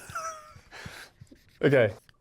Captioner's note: Luke laughing